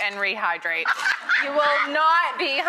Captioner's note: laughing